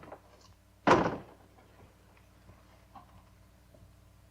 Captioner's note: door closes